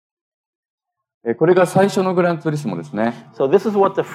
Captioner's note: speaking japanese